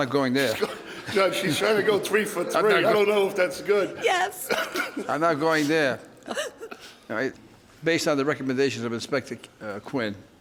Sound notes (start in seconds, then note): 6.1 chuckles